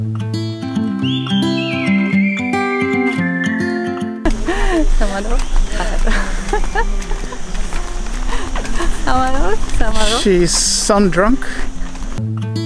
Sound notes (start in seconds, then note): 0.6 gentle upbeat music; 8.7 murmurs